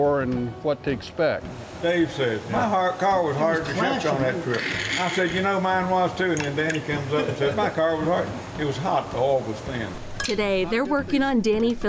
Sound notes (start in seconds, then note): 2.1 chattering